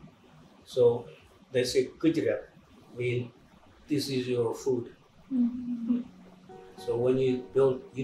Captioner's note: non-english speech